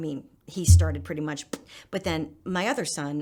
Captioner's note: popping noise